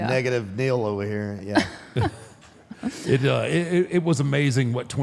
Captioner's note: Michelle laughs